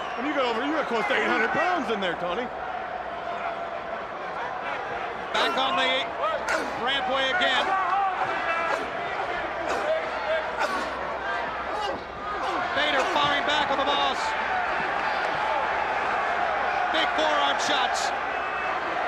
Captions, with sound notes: Well you got close to 800 pounds in there, Tony. Back on the rampway again. (wrestlers grunt) Vader firing back on The Boss. Big forearm shots.